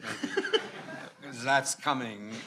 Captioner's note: attendees laughing